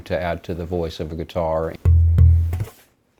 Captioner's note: hollow thuds